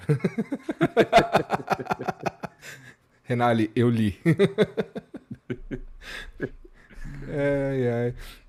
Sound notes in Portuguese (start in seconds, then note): 2.5 risadas